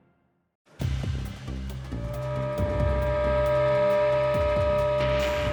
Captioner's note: train whistle blows